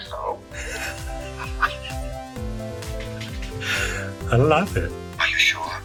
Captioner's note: laughs